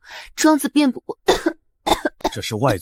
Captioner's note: cough